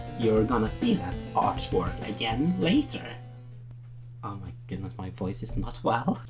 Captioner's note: hoarse voice